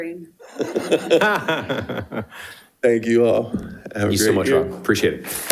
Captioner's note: laughs